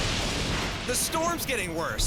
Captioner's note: lightning crashes